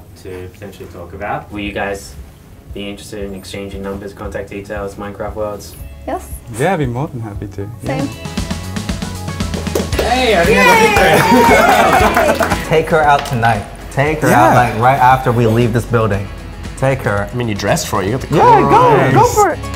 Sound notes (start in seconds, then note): 8.6 playful music; 10.4 team behind the camera cheers